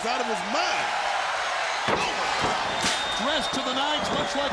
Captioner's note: crowd cheering